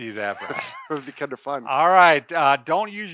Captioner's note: laughs